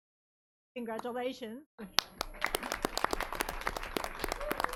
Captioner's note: everyone clapping